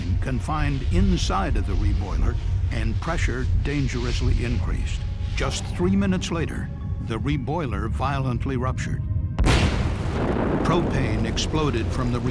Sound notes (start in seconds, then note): 9.3 sound of explosion